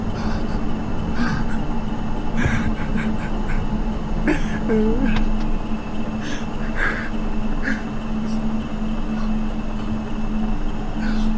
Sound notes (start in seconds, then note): 5.1 Ben wimpers